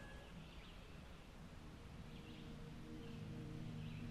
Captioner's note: birds chirp